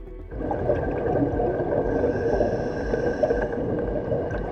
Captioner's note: breathing